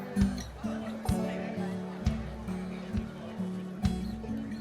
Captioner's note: crowd murmers